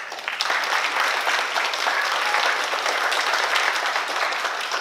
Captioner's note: oklaski